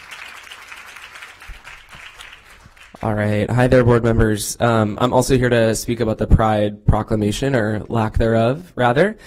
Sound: applause

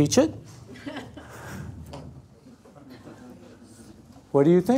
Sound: laugh

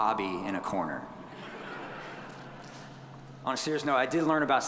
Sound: audience chuckling

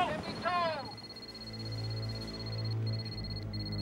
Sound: beeping

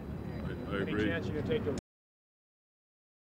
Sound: ambient street, crowd noise

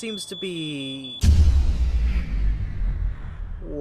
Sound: power shutting down

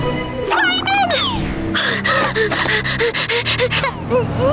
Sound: panting; grunting

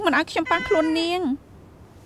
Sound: cat meowing

